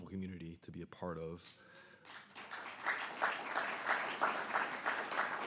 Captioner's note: audience applauds